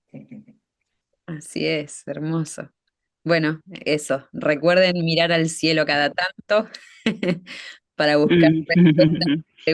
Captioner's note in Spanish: risas